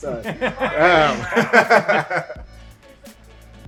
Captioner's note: laughs